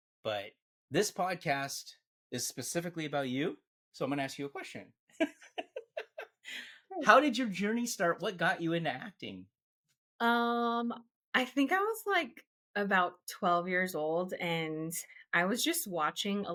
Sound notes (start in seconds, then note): 5.3 laughs